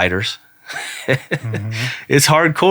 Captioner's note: laughing